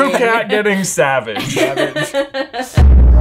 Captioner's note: laughing; rhythmic electronic music